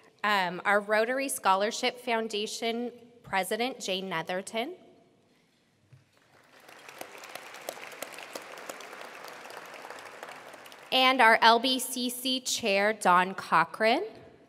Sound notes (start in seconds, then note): 6.2 attendees applauding